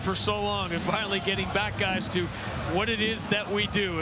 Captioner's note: cheers and applause